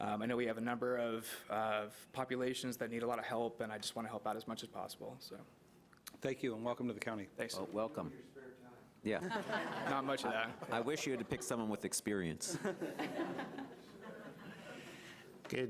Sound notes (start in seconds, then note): 9.2 audience laughing; 12.5 audience chuckling